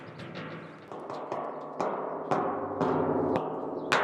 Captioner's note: metal sounds continue